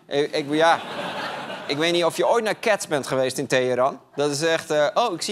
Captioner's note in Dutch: gelach